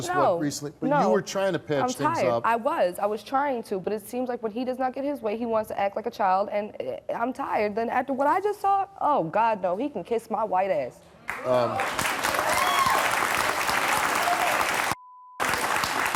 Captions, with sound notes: - Not after just recently but you were trying to patch things up. - I was, I was trying to but it seems like when he does not get his way, he wants to act like a child and I'm tired and after what I just saw, oh God no, he can kiss my white ass. (audience clapping)